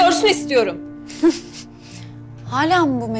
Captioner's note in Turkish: Gülme sesi